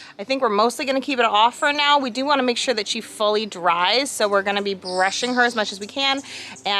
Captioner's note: none